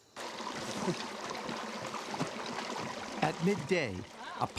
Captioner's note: water flowing